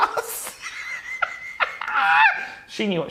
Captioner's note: laughing loudly